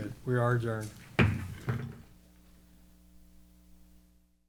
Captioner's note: gavel pounding